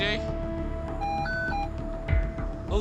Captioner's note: machine beeps